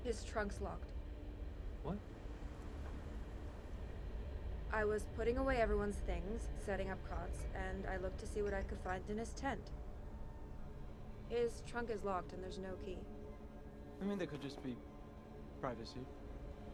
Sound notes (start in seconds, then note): none